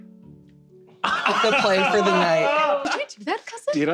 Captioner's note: laughter